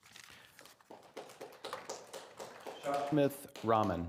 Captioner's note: attendees clapping